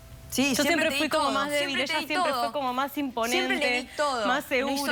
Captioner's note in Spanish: Hablan al unísono